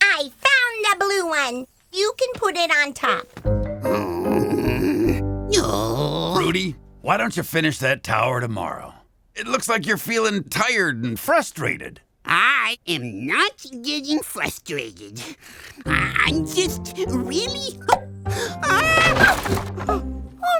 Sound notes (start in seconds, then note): 3.8 grunts